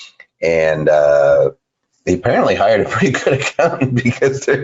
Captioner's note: laughs